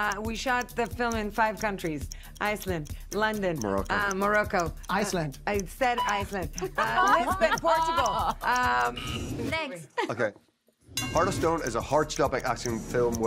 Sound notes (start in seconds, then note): 6.0 Alia laughing; 8.9 bell dings